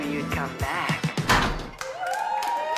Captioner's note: loud clunk pop, bar cheers